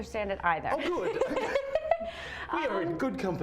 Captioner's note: laughs